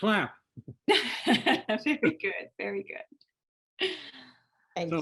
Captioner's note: laughs